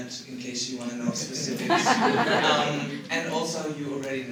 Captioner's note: laughter